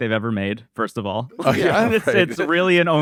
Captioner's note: laughs